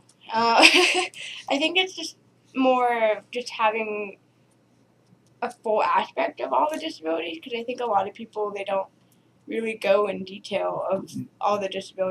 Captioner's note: laughter